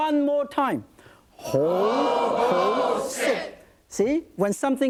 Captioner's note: audience repeats Chinese phrase